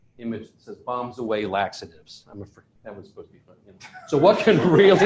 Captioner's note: laughter